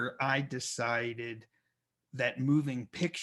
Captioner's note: none